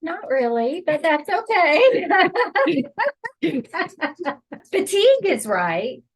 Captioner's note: chuckling